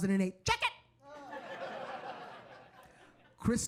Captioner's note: audience laughing